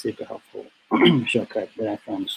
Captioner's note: clears throat